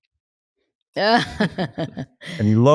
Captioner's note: laughs